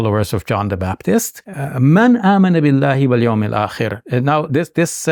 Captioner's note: speaking in Arabic